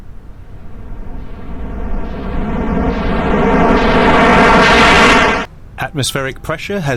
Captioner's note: sound of rushing air